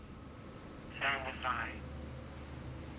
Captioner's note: radio